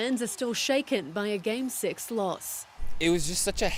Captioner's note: cheers and Applause